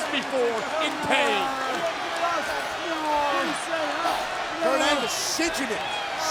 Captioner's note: crowd chattering